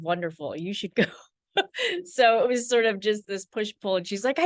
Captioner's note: laughs